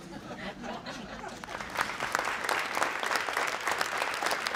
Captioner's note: applause